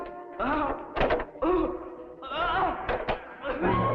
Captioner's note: Pepe groaning